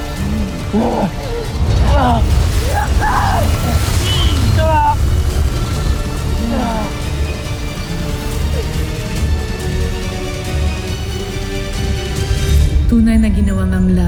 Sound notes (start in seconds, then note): 0.0 growling & grunting; 6.3 music swells; 6.3 powerful whoosh-crackle